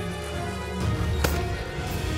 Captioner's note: gun shot